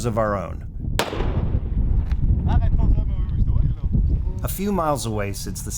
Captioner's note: gunshot sounding